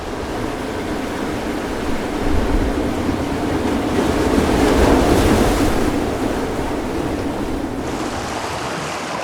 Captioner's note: water rushing